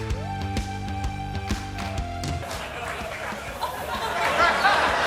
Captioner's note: laugh